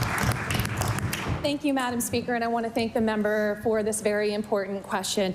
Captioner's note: applause